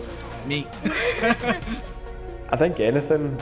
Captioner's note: laughing